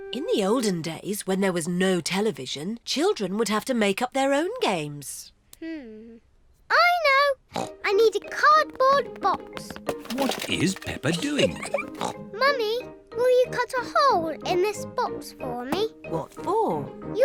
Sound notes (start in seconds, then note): 7.5 snorts